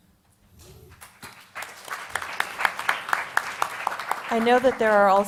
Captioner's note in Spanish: Aplausos